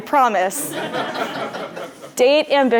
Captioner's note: laugh